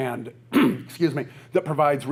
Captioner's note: coughs